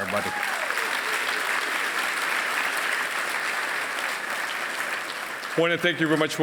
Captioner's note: applause